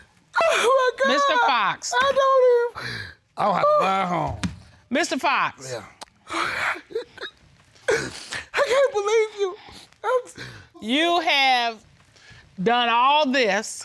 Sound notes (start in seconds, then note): 3.3 grumbles; 6.2 sobbing